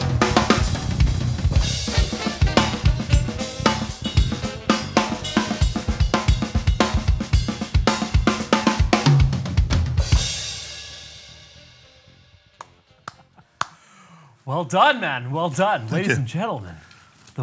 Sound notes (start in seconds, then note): 13.0 applauds